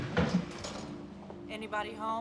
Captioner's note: door closing